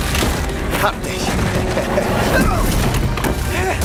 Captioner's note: in German; chuckles